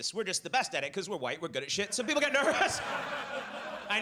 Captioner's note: audience laughs; laughs